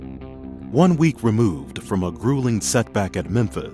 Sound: voiceover

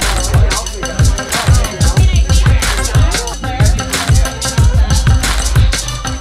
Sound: man laughing; people chattering; upbeat music

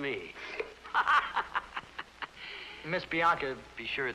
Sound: laughs

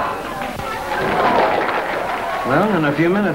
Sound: people clapping

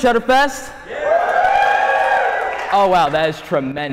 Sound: audience cheering

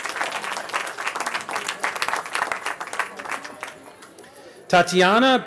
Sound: applause

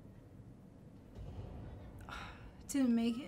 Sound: sigh

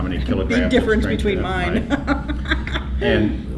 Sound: laughter

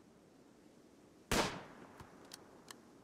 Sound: gunshot

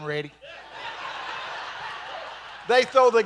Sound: congregation laughing

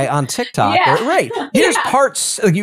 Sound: laugh

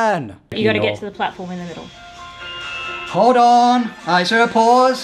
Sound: phone rings

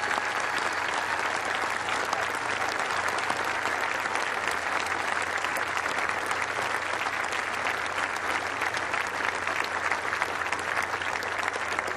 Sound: cheers and applause

